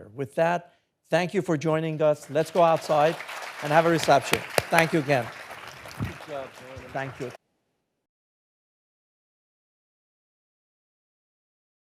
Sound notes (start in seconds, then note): 4.5 audience applauding